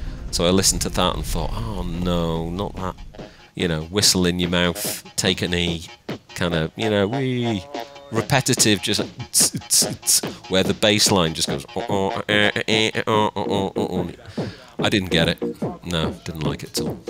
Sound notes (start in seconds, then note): 9.2 imitates drumbeat bouncing; 11.5 imitates bassline bumping